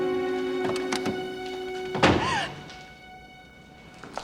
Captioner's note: gasps